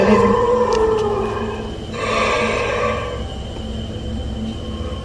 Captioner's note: creatures roaring